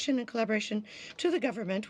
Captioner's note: speaking french